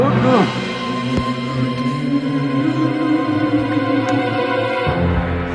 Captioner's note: Sean and Carl groan loudly